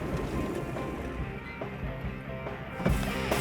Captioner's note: upbeat music; car stops; car door closing